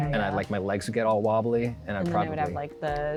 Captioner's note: pat